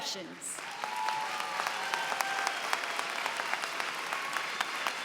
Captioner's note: cheering and applause